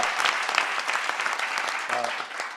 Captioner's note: applause